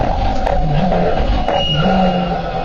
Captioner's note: squeak